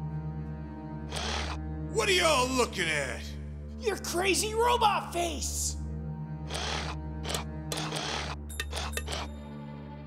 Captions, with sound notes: (robotic voice) what are y'all looking at? your crazy robot face (robotic sounds)